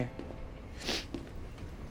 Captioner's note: sniffs